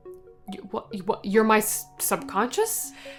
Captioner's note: stuttering